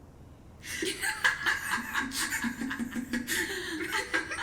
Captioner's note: women laugh